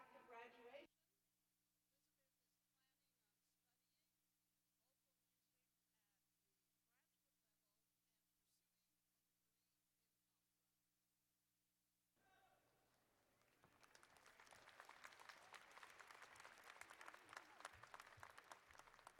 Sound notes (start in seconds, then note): 12.8 applause